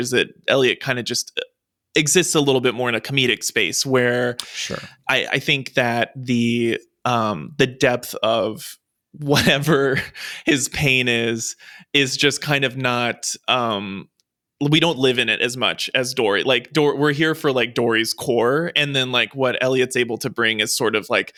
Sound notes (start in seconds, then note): 8.8 chuckles